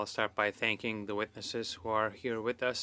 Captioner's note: speaking French